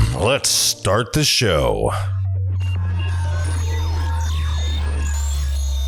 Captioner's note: insert sound effect before music starts